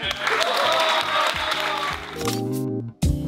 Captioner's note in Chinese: 歡呼聲